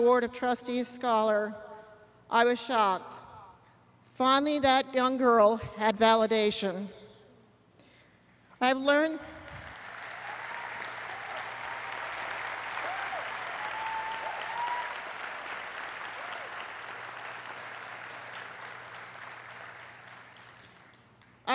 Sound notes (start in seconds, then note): 13.5 applause